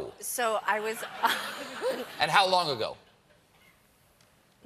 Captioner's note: laughter